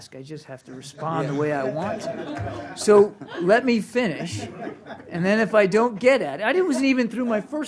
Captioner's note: laughter